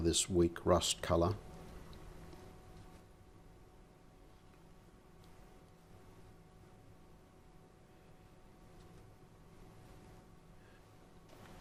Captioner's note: silence